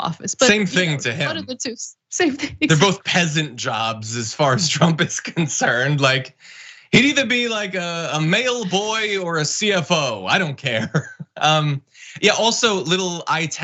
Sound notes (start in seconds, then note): 7.1 laugh